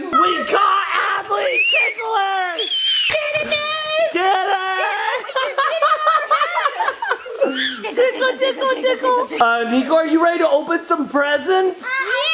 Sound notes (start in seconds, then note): 2.8 screams; 7.0 laughs